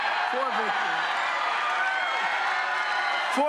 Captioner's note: cheers and applause